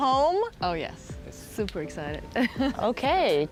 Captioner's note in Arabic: يضحك